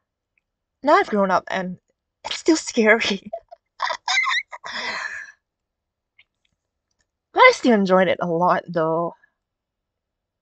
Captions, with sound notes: Now I've grown up, and... Now I've grown up, and... It's still scary! It's still scary! *squeal laughter* *squeal laughter* But I still enjoyed it a lot though! But I still enjoyed it a lot though!